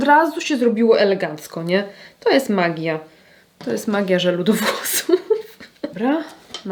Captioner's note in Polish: śmiech